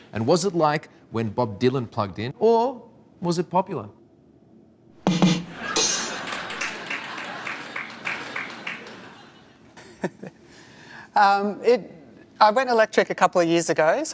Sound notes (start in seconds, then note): 4.9 drum banging; 5.1 audience laughing; 7.2 audience applauding; 10.3 chuckles